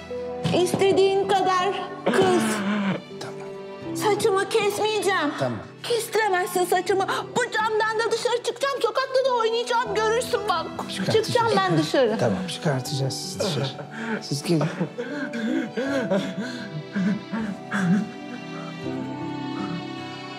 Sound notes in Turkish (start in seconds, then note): 2.1 Mehmet Ali ağlıyor; 15.4 Mehmet Ali ağlıyor